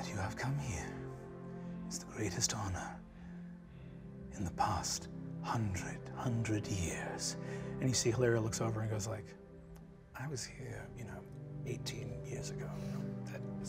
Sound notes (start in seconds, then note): none